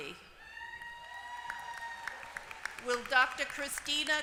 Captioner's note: applause